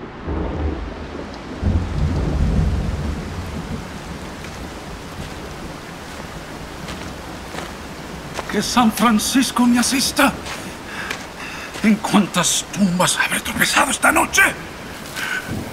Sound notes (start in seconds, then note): 0.0 thunderclap; 3.6 heavy rainfall; 5.8 footsteps